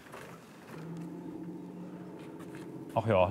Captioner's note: the engine chugs quietly